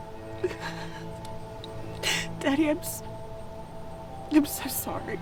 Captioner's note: crying